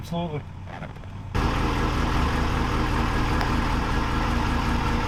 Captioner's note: truck rumbling